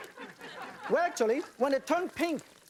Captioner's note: audience laughter